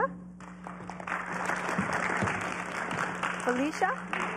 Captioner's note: applause